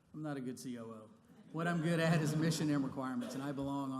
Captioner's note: laughter